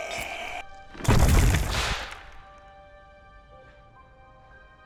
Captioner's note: crashing